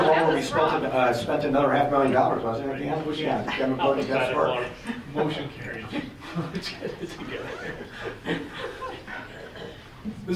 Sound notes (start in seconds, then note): 4.0 board members murmuring